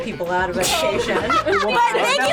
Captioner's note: group laughs